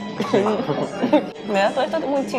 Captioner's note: laughs